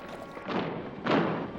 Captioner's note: heavy footsteps approaching